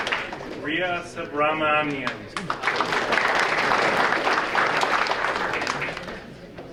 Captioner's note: audience applauding